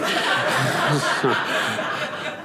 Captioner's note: audience laughing